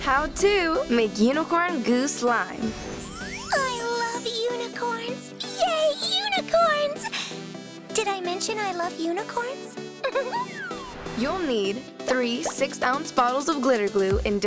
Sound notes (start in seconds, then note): 10.0 laughing